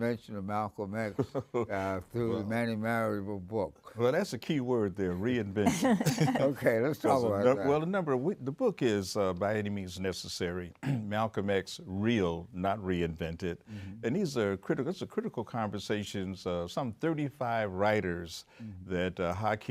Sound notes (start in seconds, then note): 5.6 everybody laughs